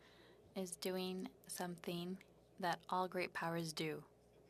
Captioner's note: speaking French